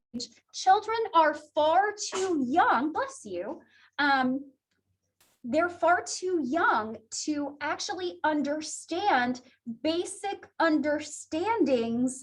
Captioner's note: student sneezes